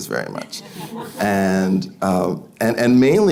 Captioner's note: audience laughing